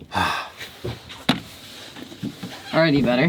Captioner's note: sighs